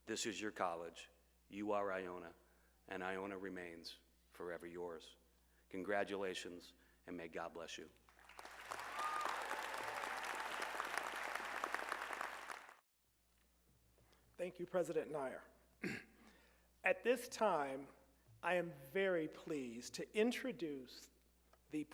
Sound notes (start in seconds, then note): 8.1 applause